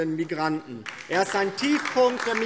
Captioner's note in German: Beifall DIE LINKE und vereinzelt SPD